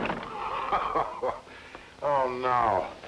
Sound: laughs

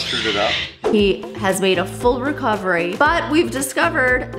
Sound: birds squawking

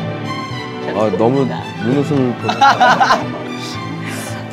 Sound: laughing

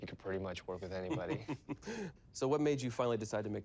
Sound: laughs

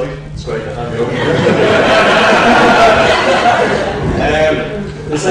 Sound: laughs

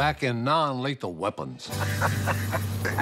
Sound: laughter

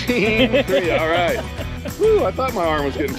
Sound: chuckling

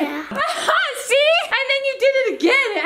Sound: laughs

